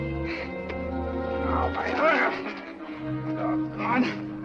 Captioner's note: grunting